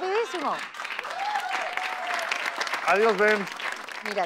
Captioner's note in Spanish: Aplausos